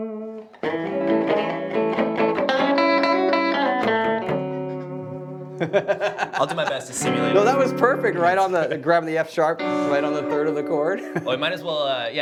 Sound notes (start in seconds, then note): 5.4 laughing